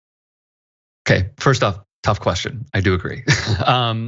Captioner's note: laugh